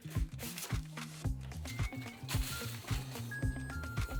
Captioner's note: the oven timer goes off right on cue🔔